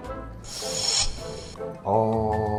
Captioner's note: sharp inhale